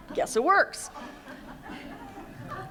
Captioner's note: laughter